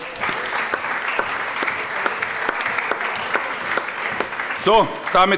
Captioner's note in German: Allgemeiner Beifall